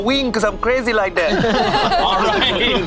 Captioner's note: group laughs